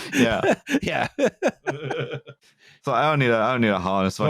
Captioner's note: laughter; laughing